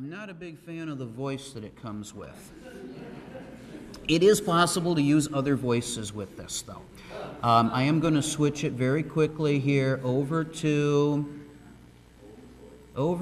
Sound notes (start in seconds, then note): 2.5 audience laughing